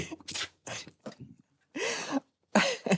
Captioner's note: spitting sound